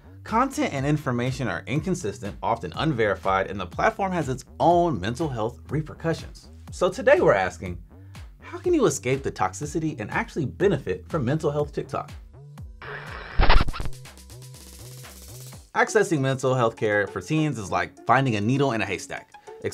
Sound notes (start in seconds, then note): 12.8 record scratching